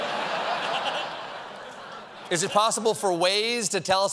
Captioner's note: laughter